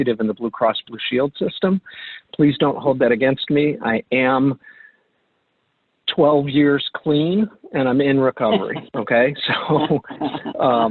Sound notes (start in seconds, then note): 8.4 laughs